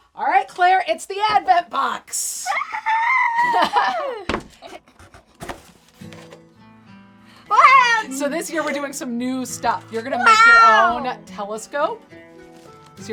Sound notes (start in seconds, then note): 2.4 cheering; 2.8 mom chuckles; 5.9 soft music